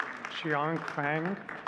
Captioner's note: audience clapping; faintly speaking